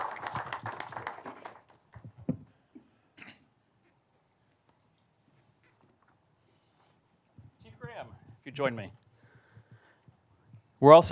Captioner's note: applause